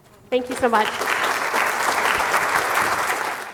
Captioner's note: applause